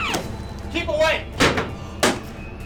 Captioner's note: chair banging